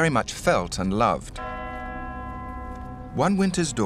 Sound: bell tolling

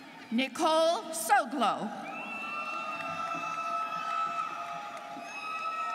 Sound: students cheering

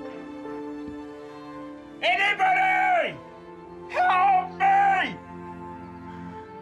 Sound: shouts

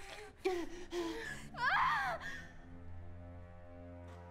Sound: woman screams; ominous music

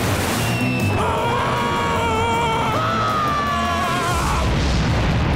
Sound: screaming

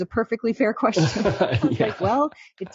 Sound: laughing

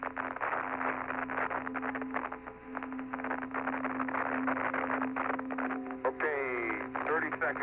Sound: crackling

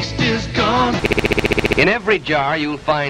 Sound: stutter loop

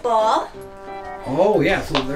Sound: ball popping

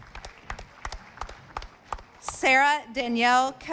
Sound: audience applauding

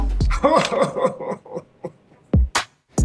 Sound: crying

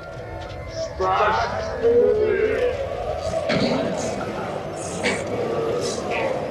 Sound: electronically distorted sounds

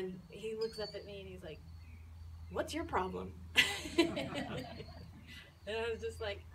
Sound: laughs

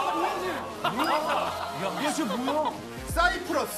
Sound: only laughs

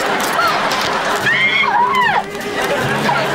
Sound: shrieking

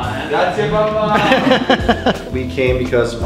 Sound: laugh

